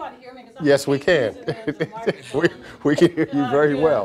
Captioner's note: laughs